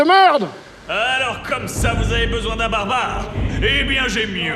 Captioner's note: Voice of Bob Lennon